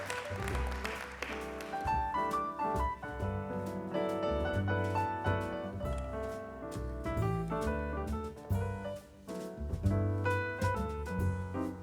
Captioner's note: applause